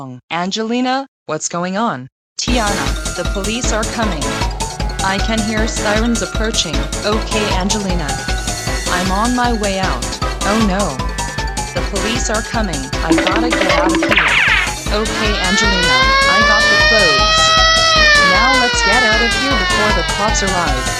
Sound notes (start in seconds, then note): 2.3 on phone; 14.8 sirens wailing